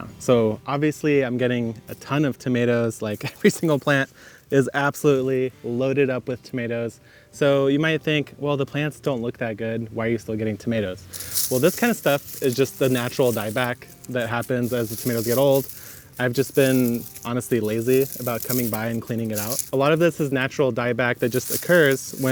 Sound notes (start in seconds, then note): 3.3 laughs